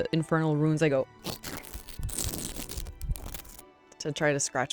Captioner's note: scratching sounds